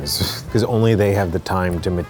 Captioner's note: laughs